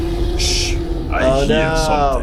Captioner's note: shushing; growling